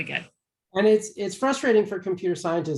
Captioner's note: tender Voice